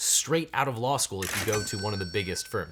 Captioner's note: cash register chimes